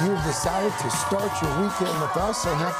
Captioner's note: applause